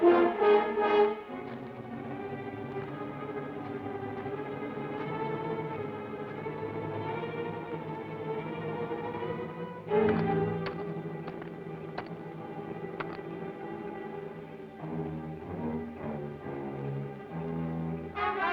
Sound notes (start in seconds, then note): 10.2 pickax clacks